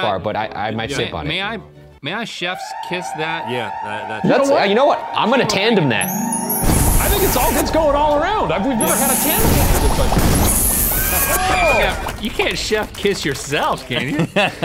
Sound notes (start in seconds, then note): 2.7 siren roaring; 10.4 kisses blowing; 13.5 all laughing